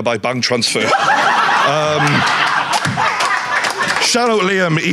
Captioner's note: audience laughing